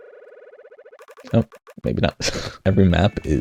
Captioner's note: chortles slightly; chuckles slightly